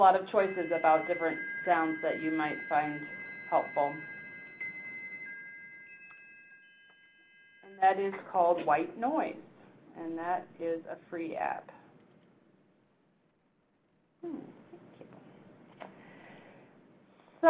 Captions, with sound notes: So there's a lot of choices about different sounds (chimes ringing) that you might find helpful. And that is called White Noise, and that is a free app. Hmm.